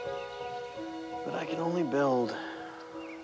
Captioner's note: sighs